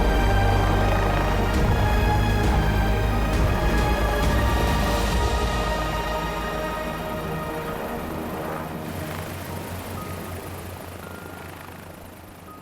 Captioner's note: helicopter blades whirring